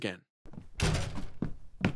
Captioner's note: footsteps walking away; door slams open